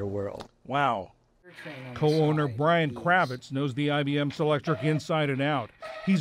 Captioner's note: voice-over